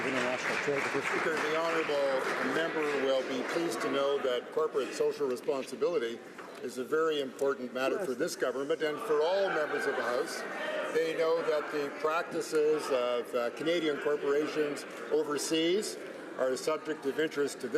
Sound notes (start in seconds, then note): 2.4 some Applause